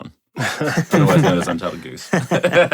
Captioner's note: laughter